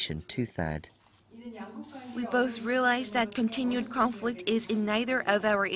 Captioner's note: Korean